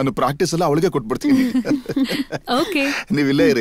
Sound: laughs

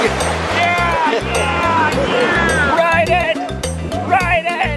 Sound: cheers

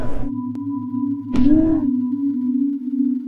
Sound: fist thuds softly; sonorous synth music

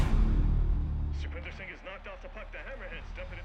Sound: radio

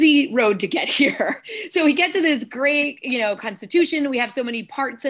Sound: laughter

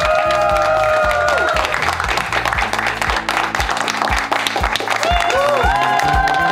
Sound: crowd clapping and cheering

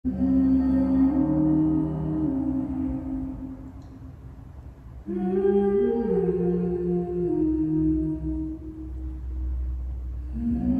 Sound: humming

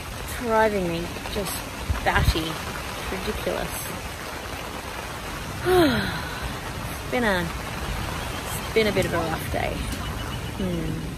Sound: sighs heavily

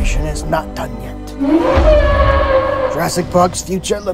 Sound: Brachiosaurus Sounds

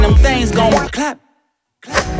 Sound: clap

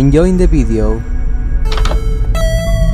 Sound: open minecraft door sound

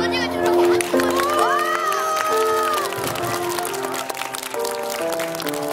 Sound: applause and cheering

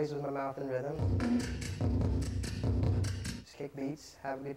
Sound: beatboxing

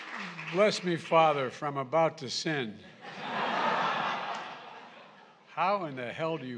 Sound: laughter

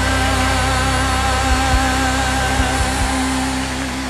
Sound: crowd cheering

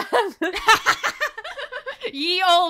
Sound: laughter

